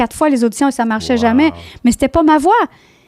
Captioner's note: in french